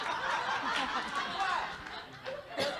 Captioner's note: audience Laughing